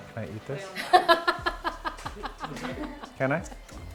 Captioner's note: laughs